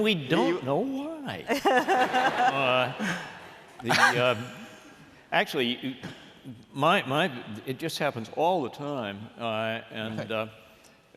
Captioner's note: laughter